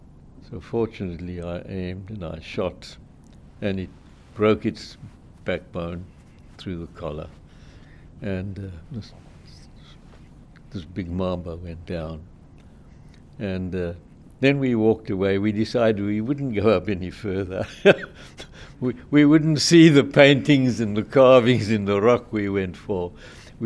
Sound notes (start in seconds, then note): 17.7 laughing